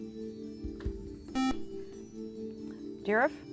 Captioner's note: buzzer